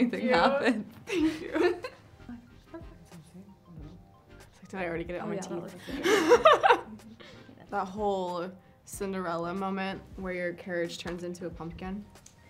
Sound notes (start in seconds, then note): 5.8 laughs